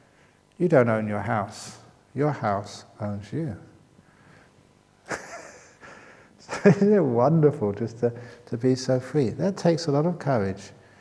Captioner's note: chuckle